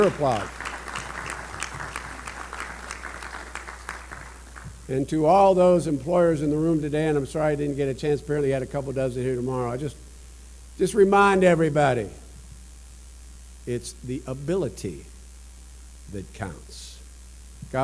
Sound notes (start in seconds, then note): 0.0 applause